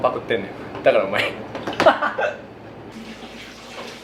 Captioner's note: laughter